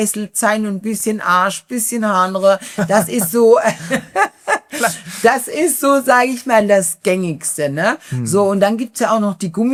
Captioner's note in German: gelächter